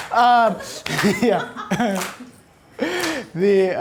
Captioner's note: audience laughter